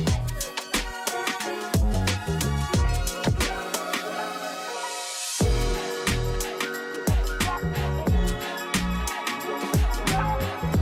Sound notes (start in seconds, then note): none